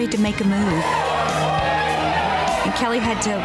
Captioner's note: upbeat music; women cheering